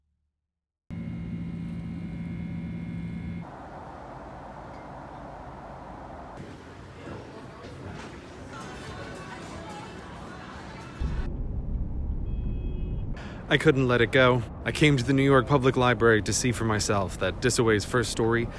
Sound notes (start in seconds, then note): 0.8 airplane whirring; 3.4 airplane cabin noises; 6.2 airport music / people talking in the background; 10.9 traffic noises